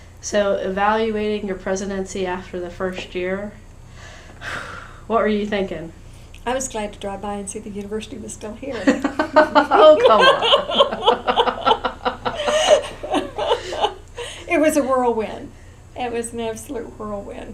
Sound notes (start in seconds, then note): 8.7 laughter